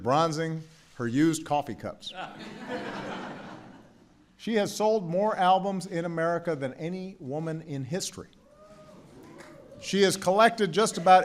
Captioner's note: laughter